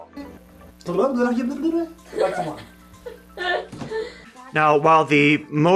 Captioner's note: garbled line blooper & laughter